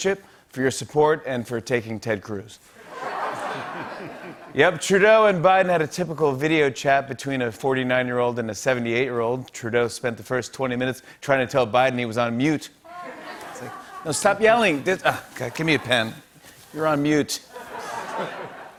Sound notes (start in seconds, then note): 2.8 laughter